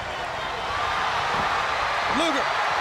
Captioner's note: crowd cheering